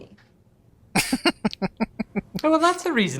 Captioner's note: chuckling